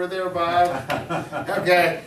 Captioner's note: chuckles